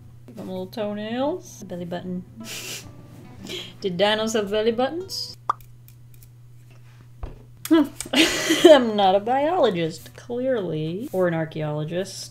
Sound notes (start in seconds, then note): 2.4 chuckles; 7.8 laughs